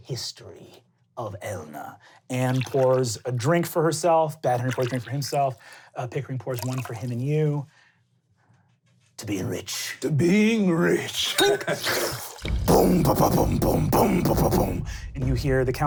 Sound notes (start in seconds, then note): 11.3 slurping